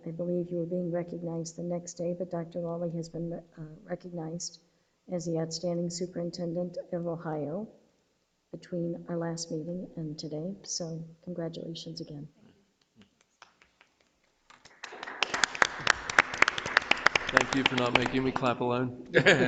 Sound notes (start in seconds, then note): 12.9 claps; 14.4 audience applauds